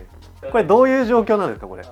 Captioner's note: laughs